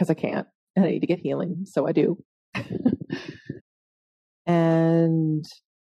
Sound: laughing

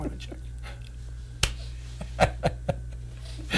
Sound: men laughing

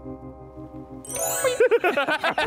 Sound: gentle bells dinging; laughing

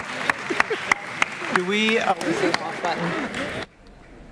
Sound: applause

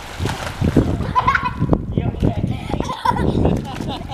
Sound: laughing

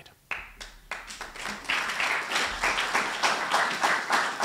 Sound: applause

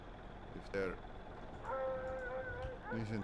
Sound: dog barking, howling

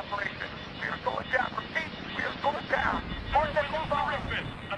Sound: radio

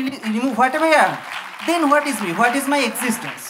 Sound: applause

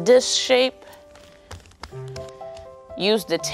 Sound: patting sounds

